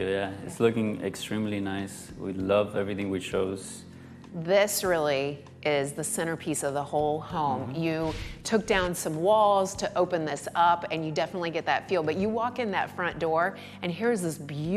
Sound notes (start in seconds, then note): none